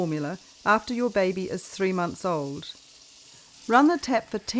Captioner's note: sound of running water